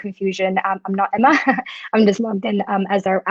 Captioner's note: laughing